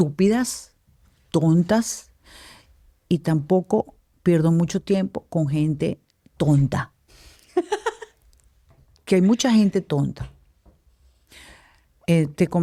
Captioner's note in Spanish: risas